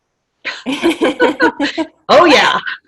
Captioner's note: laughter